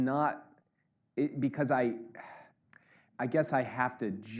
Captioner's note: Jake sighs